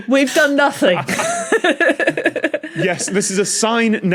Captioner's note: group giggling